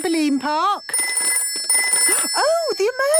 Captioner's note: phone ringing